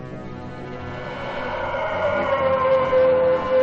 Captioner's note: howling